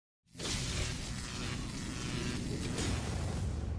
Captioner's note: electric buzzing